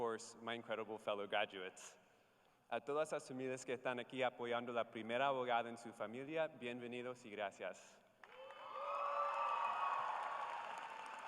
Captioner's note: speaking in spanish